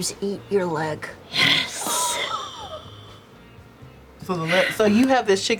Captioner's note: gasps